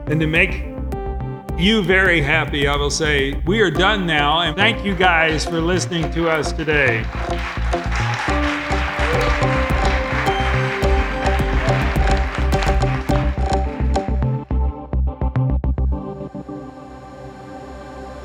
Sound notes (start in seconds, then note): 7.3 audience applauding; 7.3 bright energetic music